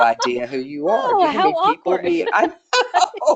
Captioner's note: laughing